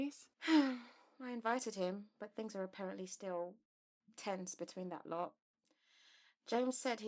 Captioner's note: Mary sighs